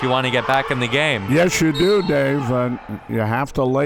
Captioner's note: whistle blows